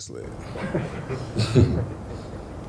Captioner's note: crowd softly laughs